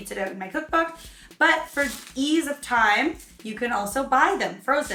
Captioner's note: plastic bag crunching